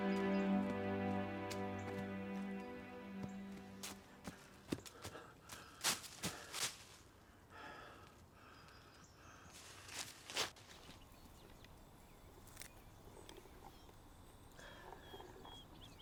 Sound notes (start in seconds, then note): 0.2 footsteps thudding; 5.5 grass crunching; 8.3 birds chirping